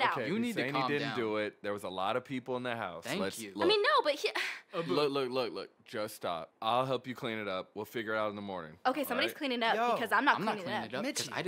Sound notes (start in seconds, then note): none